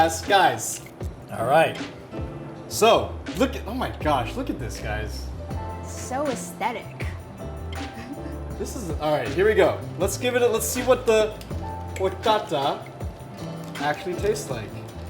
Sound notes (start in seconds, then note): 7.8 chuckles; 14.8 ice rattles